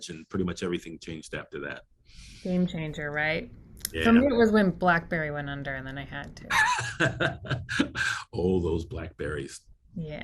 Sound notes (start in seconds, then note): 6.5 laughs